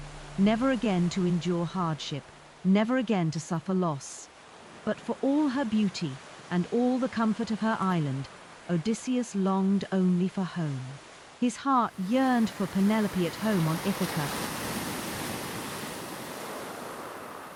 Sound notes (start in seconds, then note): 14.2 waves crashing